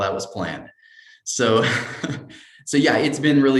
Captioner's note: laughter